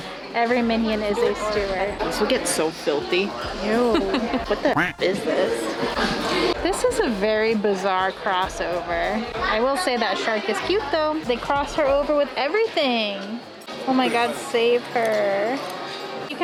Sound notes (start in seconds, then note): 3.4 laughs; 4.7 duck quack